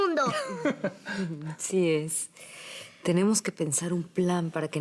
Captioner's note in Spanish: Risas